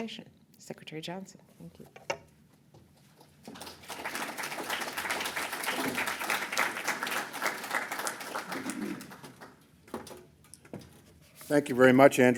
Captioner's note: applause